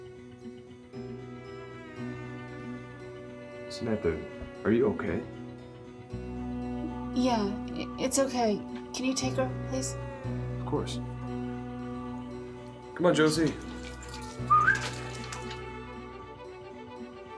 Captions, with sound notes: Samantha, are you okay? - Yeah, it's okay, can you take her, please? - Of course. Come on, Josie (whistles).